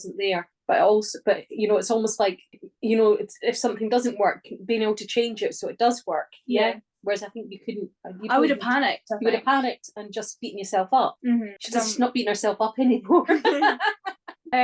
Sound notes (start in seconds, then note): 13.2 laughing